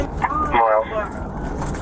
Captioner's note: radio chatter